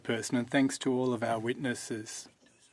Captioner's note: speaking French